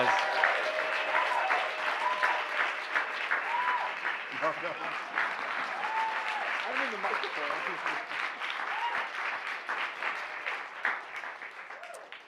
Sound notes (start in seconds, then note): 0.2 cheers, applause; 7.4 cheers, applause